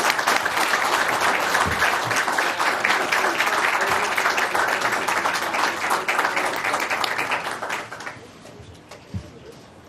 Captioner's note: applause